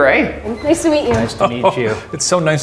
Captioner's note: laughs